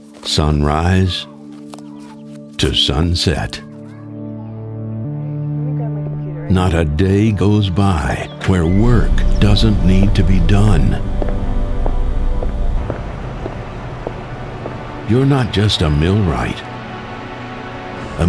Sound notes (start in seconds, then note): 3.8 dramatic music; 10.9 footsteps